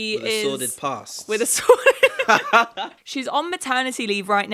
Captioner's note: laughs